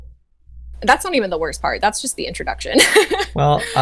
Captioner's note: laughs